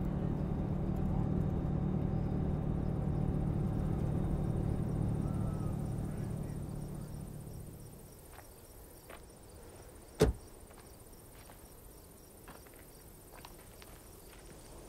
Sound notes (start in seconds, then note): 6.3 crickets chirping; 10.2 car door shuts